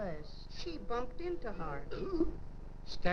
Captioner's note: woman belching